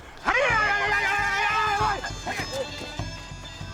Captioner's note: yelling